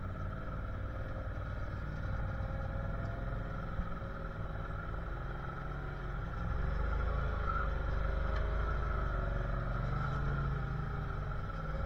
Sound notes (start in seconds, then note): none